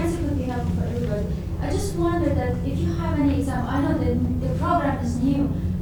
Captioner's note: faint speaking off mic